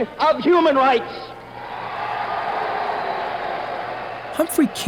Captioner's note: group cheering